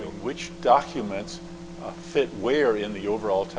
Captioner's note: voiceover